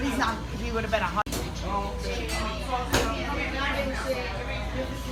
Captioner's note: customer chatter